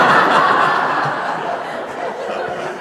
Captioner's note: laughter